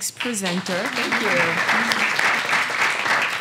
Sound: applause

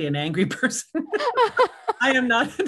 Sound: laughing

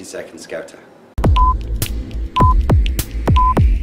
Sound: clock ticking

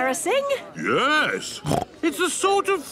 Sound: snorts

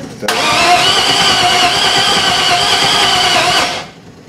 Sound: engine turns over

